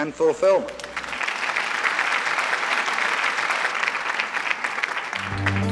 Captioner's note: applause